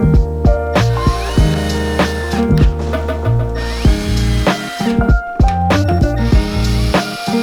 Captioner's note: drill whirring; upbeat music